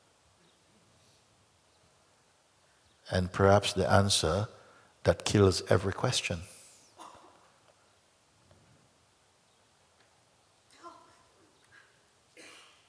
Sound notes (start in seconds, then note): 7.2 silence